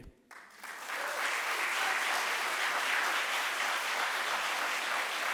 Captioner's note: audience applauds